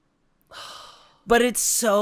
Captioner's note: sighs